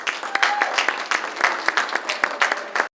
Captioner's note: applause